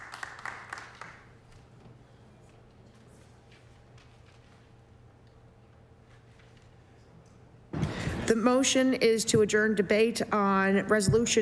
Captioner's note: applause